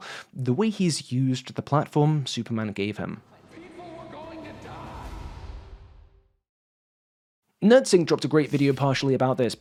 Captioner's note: 'people were going to die' line echoes